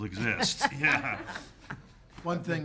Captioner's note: people laughing